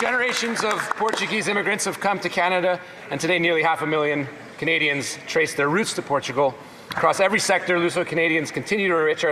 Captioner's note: speaking native language